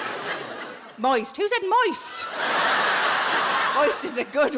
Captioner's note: audience laughs